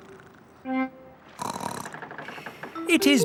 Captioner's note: snorts